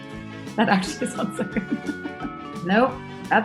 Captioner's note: laughs